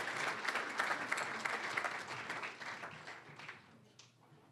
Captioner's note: cheering, applause; applause